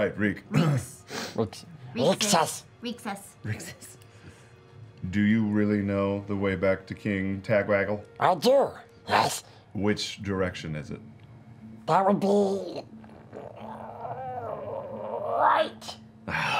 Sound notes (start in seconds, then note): 13.5 straining